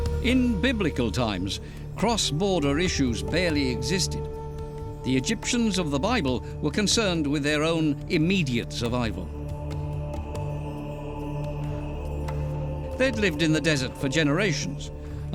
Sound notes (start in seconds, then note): 9.0 men chanting